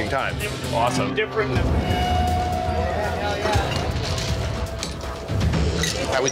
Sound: loud chatter

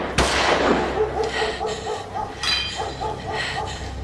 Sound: gunfire; dog barks

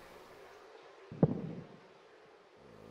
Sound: heartbeat

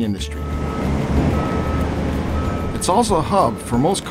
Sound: truck beeps

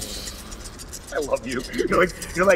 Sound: dice rattle

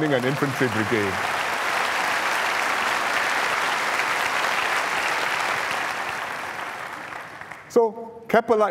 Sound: applause

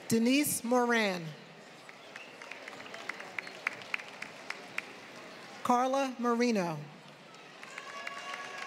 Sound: applause

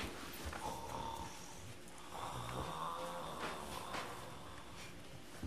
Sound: snores

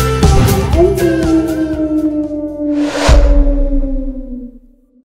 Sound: howl

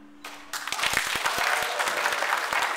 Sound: audience claps and cheers

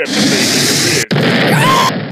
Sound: explosion

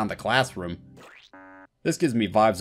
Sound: squish, HONK

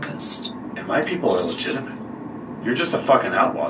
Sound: cuffs Rattle

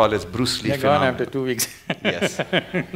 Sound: laughs

